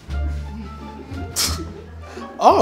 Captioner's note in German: Leises Lachen